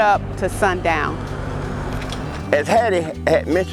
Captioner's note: engine roaring